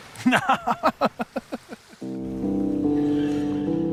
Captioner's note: laughs